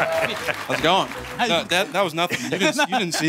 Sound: laughs; laughs

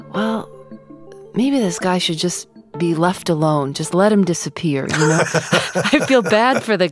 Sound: both laugh

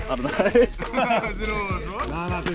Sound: laughs

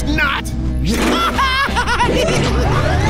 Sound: giggling

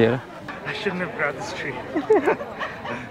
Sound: laughs

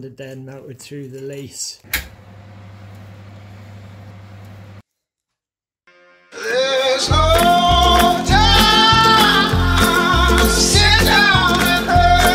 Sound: oven door opening noise

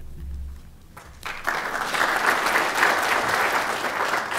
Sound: applause

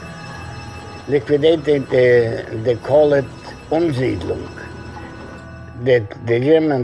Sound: speaking German

